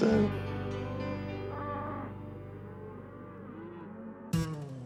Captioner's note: mooing